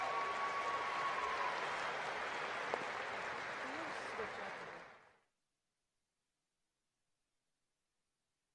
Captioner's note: cheering and applause